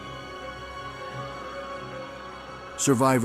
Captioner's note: screams, fire crackling